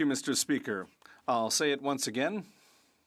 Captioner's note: speaking French